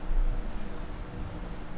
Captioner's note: none